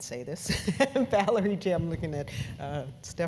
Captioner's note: laugh